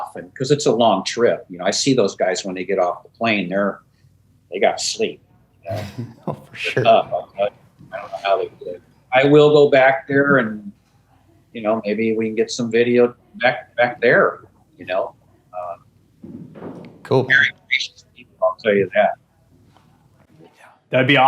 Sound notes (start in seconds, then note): 5.6 laughs